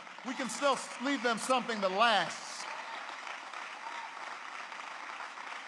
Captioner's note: applause